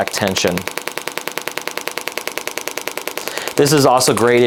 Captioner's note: machine continues tapping